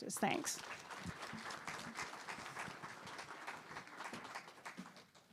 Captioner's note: audience applauding